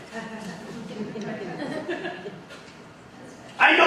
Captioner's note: audience laughing